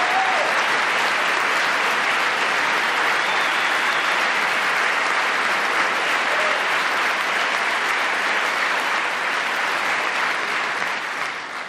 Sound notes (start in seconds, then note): 0.6 applause